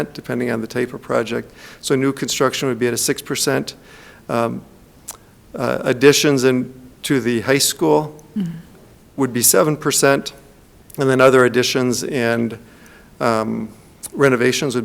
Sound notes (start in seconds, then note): none